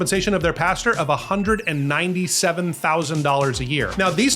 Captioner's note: bell dings